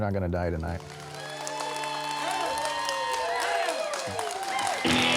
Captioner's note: audience cheers